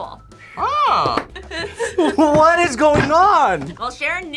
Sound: laughs

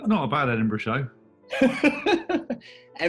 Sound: laughing

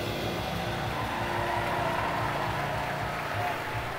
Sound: cheering

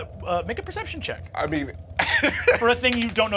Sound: laughs

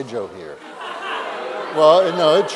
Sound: laughter

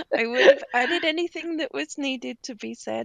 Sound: laughing

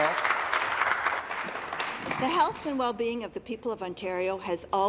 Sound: some Applause

